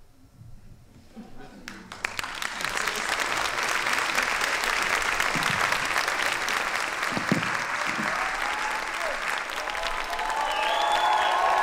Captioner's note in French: applaudissements